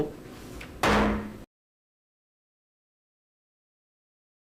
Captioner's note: gavel striking